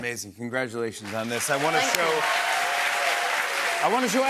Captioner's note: cheers and applause